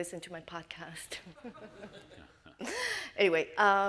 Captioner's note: all laugh